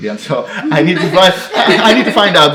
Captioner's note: irish laughing